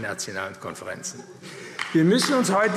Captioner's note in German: Beifall AfD